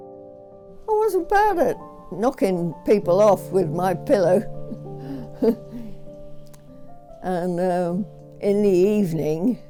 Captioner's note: gentle chuckle